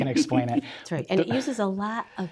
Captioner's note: laughing